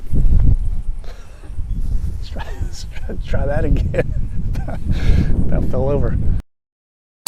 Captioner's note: laughing